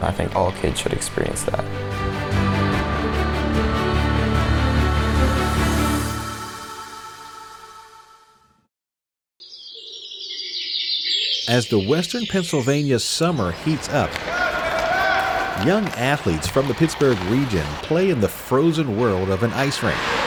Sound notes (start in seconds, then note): 10.3 birds chirping